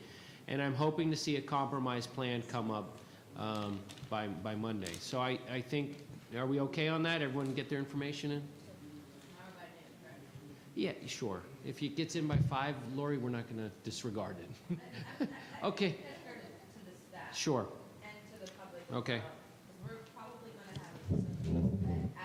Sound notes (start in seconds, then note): 9.5 faintly speaking; 16.5 faintly speaking